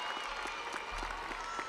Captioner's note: audience applauding; audience cheering